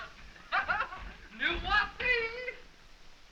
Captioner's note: speaking french